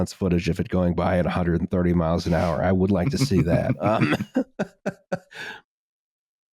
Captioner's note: laughs